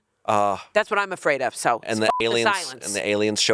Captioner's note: beep